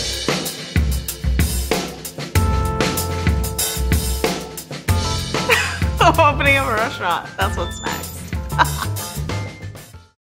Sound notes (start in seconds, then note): 0.1 upbeat music; 8.6 laughing